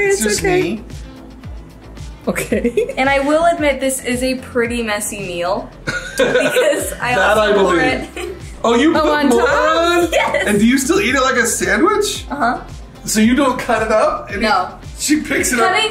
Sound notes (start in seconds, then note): 2.3 giggling; 5.8 laughing